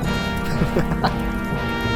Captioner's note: laughter